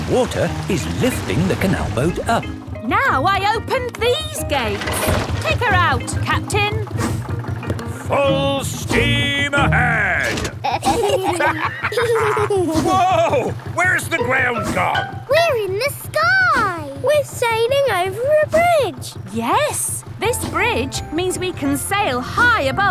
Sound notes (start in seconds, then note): 10.2 lever clangs; 10.5 kids and captain dog laughing